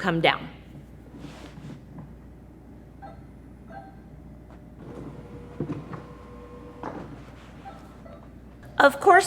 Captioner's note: beeping sound and flashing light